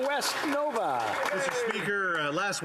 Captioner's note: applause